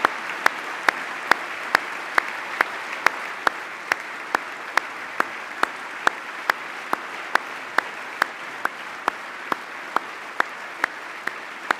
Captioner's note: applause